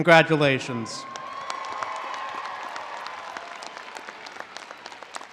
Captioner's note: all applauding